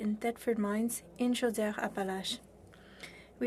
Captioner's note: speaking french